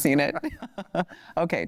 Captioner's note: laughter